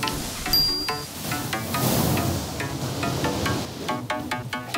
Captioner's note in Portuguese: barulho efervescente